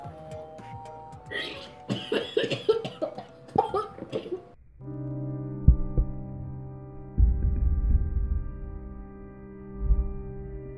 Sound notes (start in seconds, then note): 1.3 gagging; 5.1 somber music